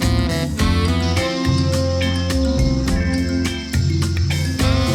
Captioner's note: wildlife chirping; soft music